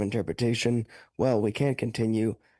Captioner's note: speaking French